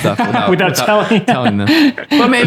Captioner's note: laughing